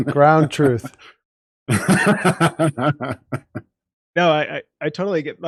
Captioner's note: laughs